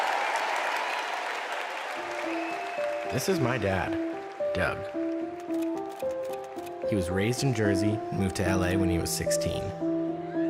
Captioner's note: cheers and applause